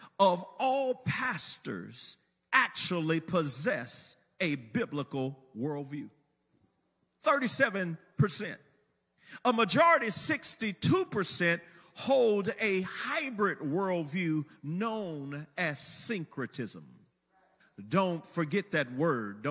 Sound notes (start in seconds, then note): none